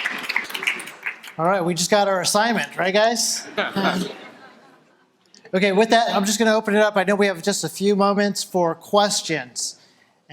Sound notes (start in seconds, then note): 0.0 audience applauding; 3.4 audience laughter